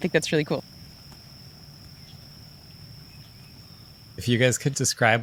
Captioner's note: crickets chirping